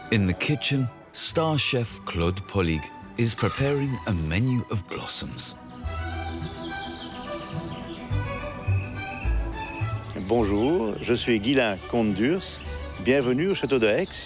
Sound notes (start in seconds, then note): 5.9 birds singing; 10.1 speaking in foreign language